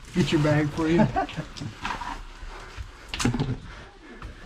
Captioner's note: laughing